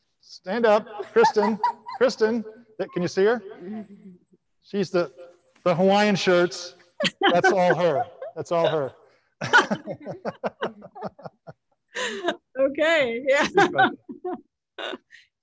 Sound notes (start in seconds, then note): 9.4 panelists laughing